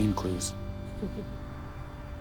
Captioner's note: laughs